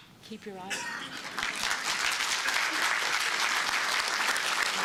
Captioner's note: applause